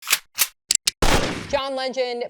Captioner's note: gun noise